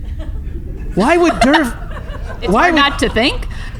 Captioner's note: cackles